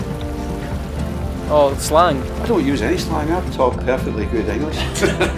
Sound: laughter

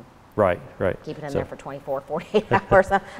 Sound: laughing

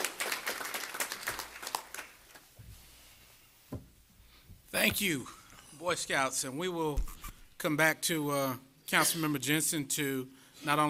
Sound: applause

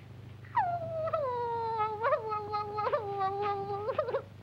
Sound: Betty screams; Betty cries

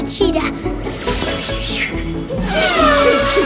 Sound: audio tinkles

